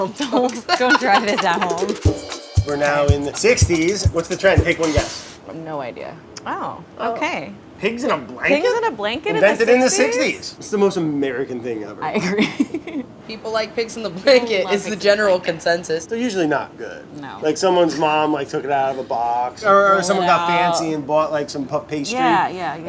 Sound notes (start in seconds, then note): 13.0 laughs